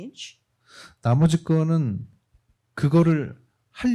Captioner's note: speaking korean